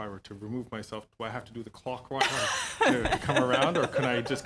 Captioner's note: speaking French